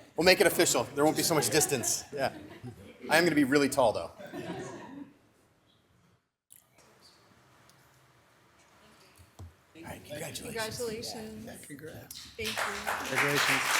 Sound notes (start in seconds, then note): 4.2 audience laughs